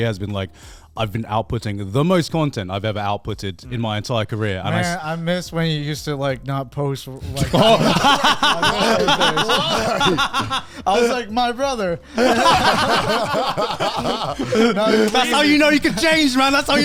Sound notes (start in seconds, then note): 7.2 men laughing; 12.0 all laughing